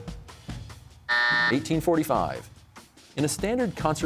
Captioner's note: buzzer sounds